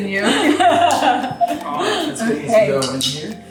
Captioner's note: laughing